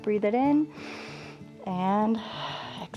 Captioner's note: inhales